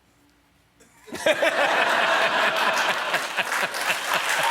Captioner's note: laughter